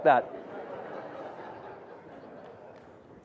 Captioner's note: audience laughs